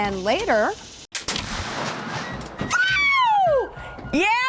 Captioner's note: gunshot; yelling excitedly